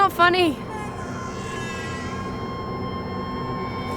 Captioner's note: baby crying